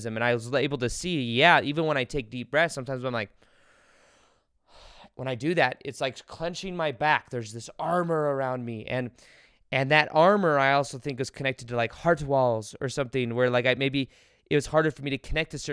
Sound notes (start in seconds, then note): 3.4 inhales deeply; 3.4 exhales deeply